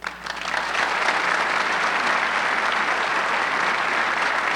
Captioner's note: audience clapping